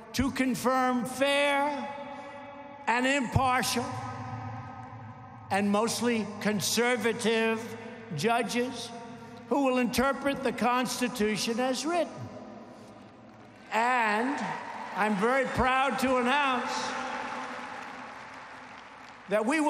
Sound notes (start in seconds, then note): 13.9 applause